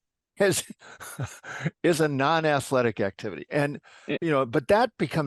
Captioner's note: chuckle